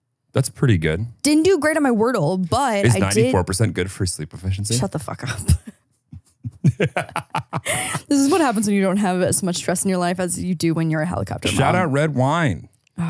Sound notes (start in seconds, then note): 6.2 laughs